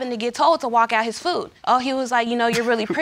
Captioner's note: chuckles